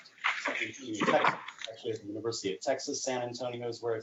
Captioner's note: distorted sound